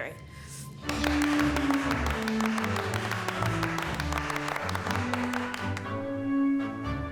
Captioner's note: triumphant music; friends clapping